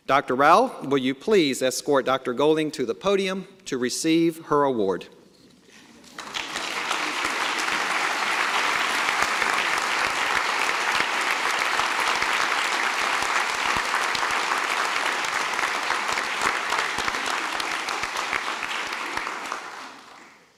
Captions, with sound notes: Dr. Rao, will you please escort Dr. Golding to the podium to receive her award. (Applause)